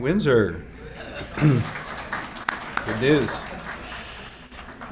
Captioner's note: applause